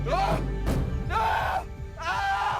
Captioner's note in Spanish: Gritos